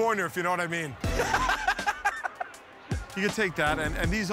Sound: laughter

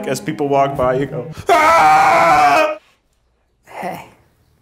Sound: yells

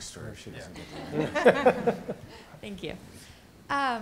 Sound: laughter

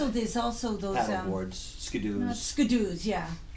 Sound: voiceover

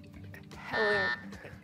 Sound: buzzer

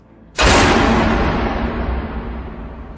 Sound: boom of Suspense

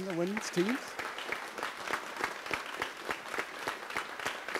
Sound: audience applauds

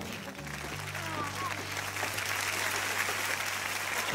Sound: clapping track

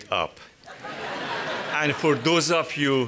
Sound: audience Laughs

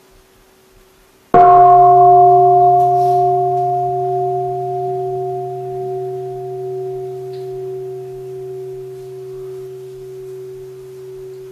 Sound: gong

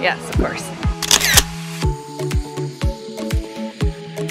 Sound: shutter clicks

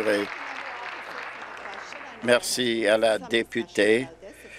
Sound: applause

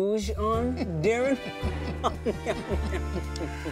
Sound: laughing like absolute gentlemen

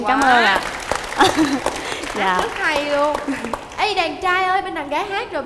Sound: claps

